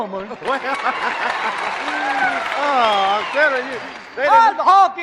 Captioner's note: laughing